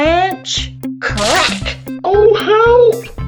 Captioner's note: branch breaks